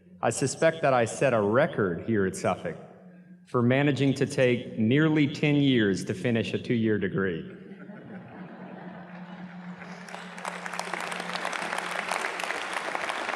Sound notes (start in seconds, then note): 7.5 audience laughs; 8.9 audience claps